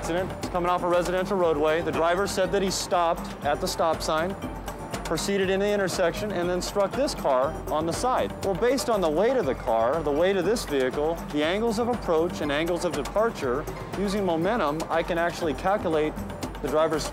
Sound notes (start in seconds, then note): none